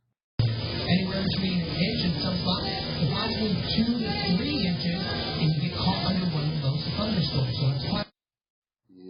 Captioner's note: "21Alive News at Noon" plays in background